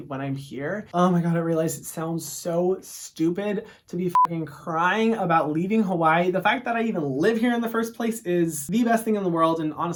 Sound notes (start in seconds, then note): 4.1 beep